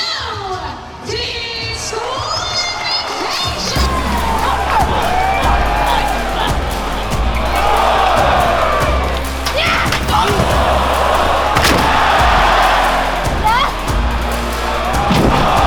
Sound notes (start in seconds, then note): 8.9 audience cheering; 9.5 wrestler screaming; 9.9 body thudding